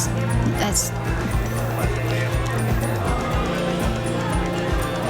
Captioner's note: chatter